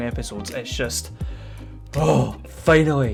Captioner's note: sigh of relief